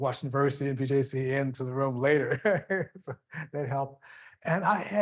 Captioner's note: laughing